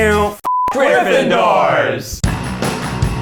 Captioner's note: beep; upbeat music